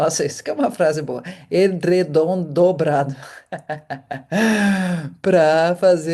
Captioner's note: laughter